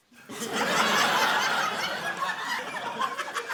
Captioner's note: laughter